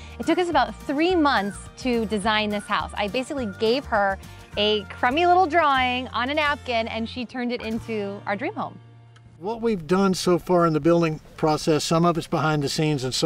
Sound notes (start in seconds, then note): none